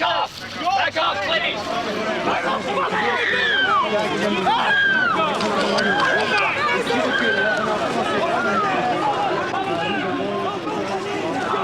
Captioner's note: mixed voices yelling